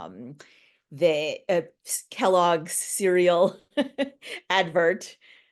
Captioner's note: chuckling